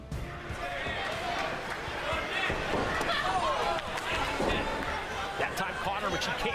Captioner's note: crowd noise